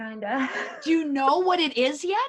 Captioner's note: laughs